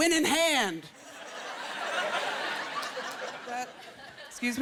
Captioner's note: laughter